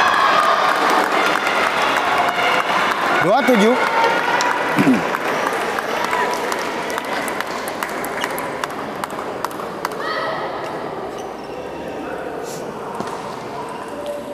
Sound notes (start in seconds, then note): 0.0 applause